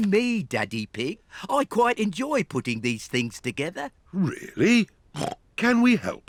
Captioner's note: snorts